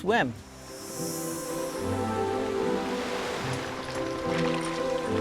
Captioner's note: peaceful music; waves crashing